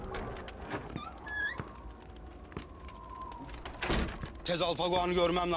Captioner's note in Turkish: Rüzgar sesi; Kapı açılıyor